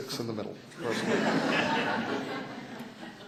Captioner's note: laughter